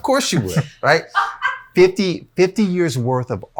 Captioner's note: wife laughs